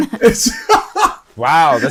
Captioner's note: laughs